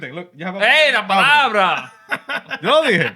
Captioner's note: non-english Speech